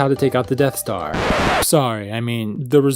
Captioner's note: record scratch